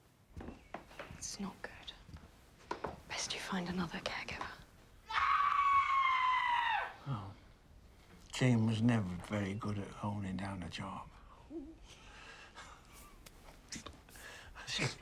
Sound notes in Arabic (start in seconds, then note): 5.0 جين تصرخ; 11.0 ضحك